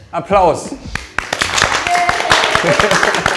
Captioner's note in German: Applaus, Jubel, Lachen